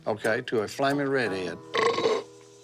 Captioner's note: burp